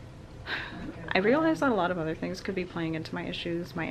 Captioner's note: sigh